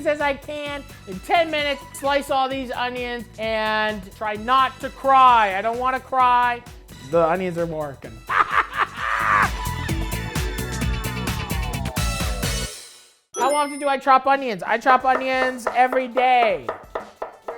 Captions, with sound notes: as I can in 10 minutes, slice all these onions and try not to cry. I don't wanna cry. The onions are working. (laughs hysterically) (upbeat music) How often do I chop onions? I chop onions every day.